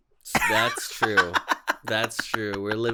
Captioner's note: cackles